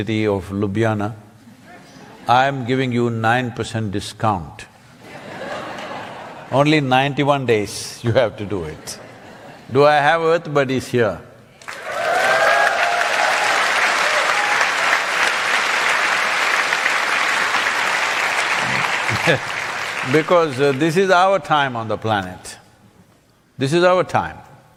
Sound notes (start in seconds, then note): 5.0 laughter; 14.9 cheering/Applause